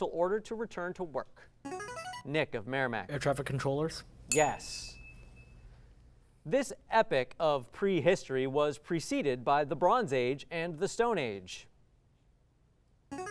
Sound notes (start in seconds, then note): 1.6 ringing; 4.3 ding